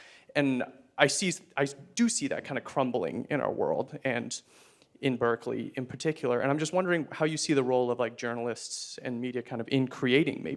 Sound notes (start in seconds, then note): none